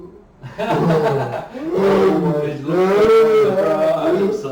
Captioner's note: laughing